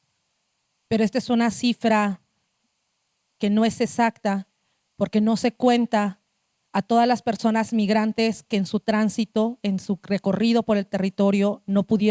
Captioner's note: speaking Zapotec language